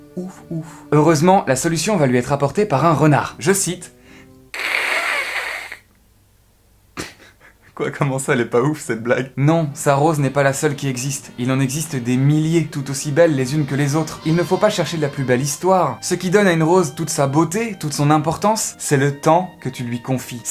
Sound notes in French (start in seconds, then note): 4.5 bruit d'un renard